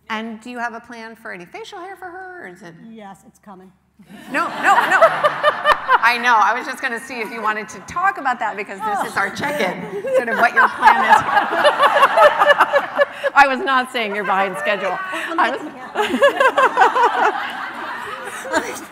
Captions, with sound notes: And do you have a plan for any facial hair for her? - Yes, it's coming. - No, no, no. I know, I was just going to see if you wanted to talk about that. Because this is our check-in, sort of what your plan is. [LAUGHING] I was not saying you're behind schedule. [LAUGHS]